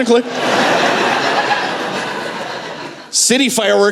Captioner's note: laughter